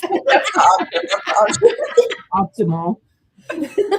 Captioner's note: laughter